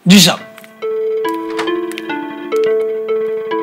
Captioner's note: Cupboard door closes